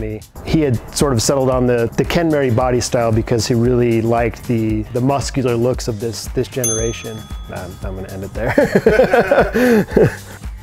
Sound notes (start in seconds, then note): 6.6 notification bell dings for pro tip; 8.5 laughing